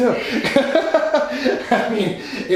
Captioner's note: laughing